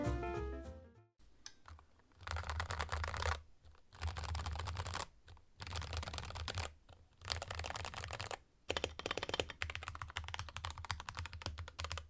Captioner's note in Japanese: キーボードの音